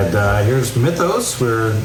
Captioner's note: water fall sound